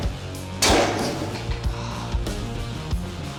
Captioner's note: gasps